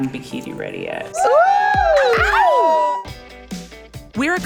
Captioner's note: hooting and cat-calling